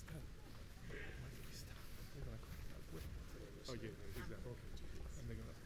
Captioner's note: officials chattering